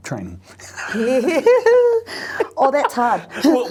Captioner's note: both laughs